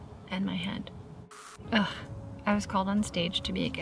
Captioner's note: static crackles